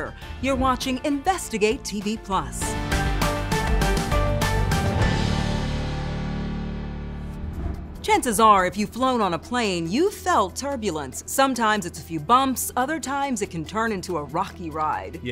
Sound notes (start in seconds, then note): 2.4 dramatic music; 7.2 air whooshes